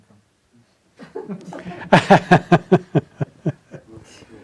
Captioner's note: audience laughing